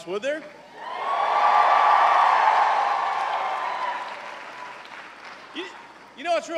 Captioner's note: cheers and applause